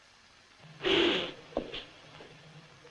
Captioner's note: blows nose